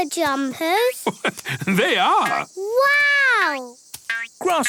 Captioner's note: laugh